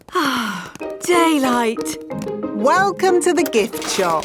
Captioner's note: sighs